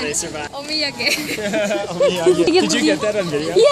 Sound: laughs

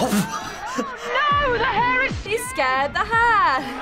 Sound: laughs; in "English" accent; chuckles

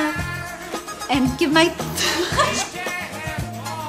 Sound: laughs

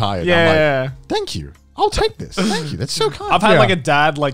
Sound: all laughing

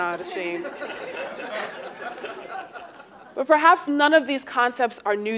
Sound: laugh

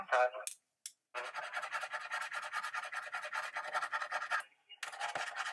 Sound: scratching sounds

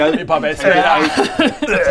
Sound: bleurgh; hyrgghhaargh

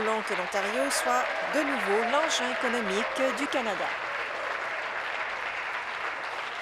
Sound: some Applause

